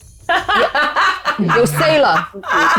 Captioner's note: laughs